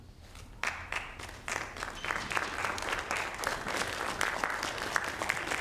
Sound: audience applauding

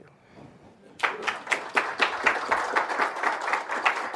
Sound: applause

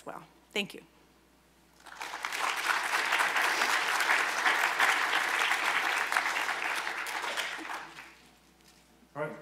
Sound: applause

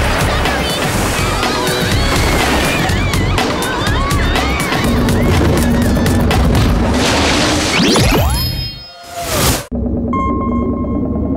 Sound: screams

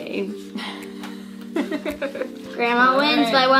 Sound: laughing

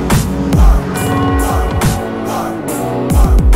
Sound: church bell ringing

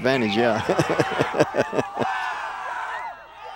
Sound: laughs

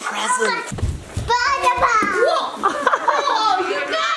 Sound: laughs

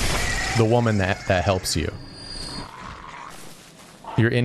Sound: none

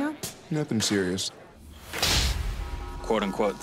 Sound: slaps

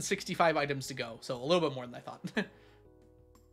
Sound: laughs

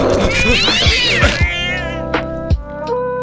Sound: cat screams

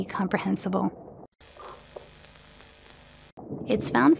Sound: VHS Static Noise

